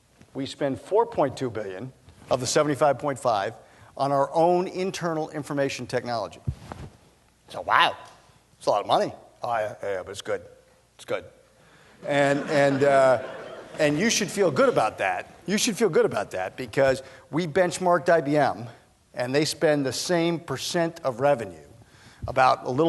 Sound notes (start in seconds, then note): 12.0 laughter